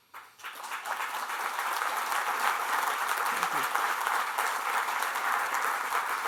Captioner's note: applause